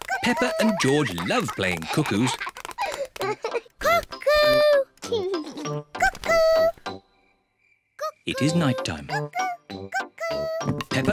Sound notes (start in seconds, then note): 3.0 laughs